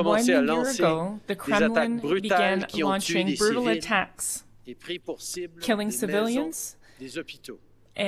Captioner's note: speaking French